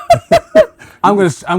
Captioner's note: laughing